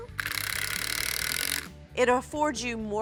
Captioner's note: whirring